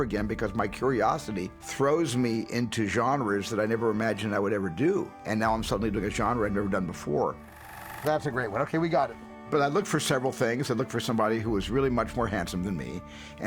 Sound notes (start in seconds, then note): 7.6 camera whirs